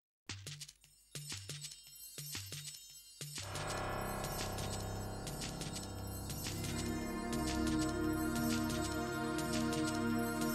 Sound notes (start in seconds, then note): 0.7 light music; 0.8 bells jingling